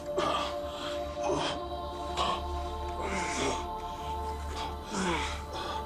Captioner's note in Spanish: Gemidos; Respiración agitada